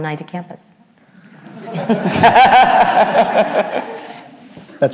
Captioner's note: audience laughs